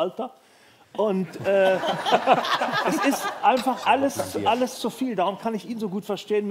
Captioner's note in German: Lachen